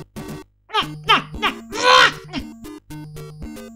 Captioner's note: retarded bird sounds